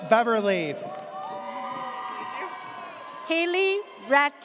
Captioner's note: audience cheers